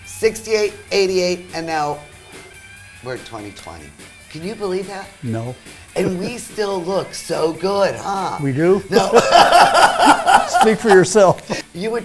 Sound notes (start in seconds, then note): 8.9 laughter